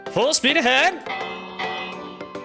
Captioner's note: ding Ding